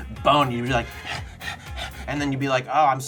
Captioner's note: breathes heavy